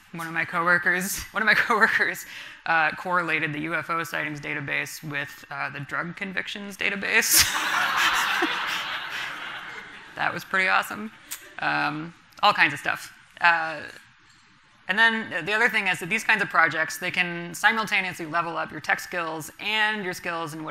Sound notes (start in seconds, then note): 7.4 everyone laughing